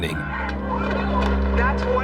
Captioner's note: protesters chanting